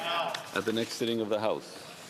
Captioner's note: speaking French